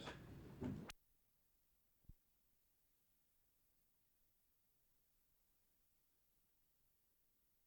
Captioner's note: no audio